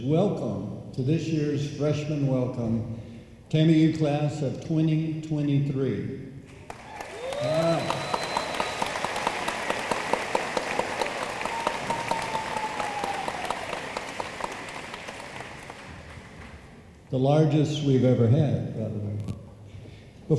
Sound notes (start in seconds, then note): 6.6 room applauds